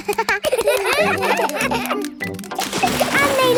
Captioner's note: children laugh